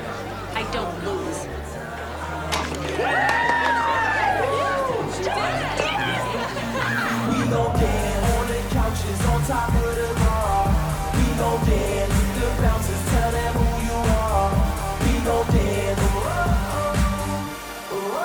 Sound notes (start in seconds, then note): 1.8 cheering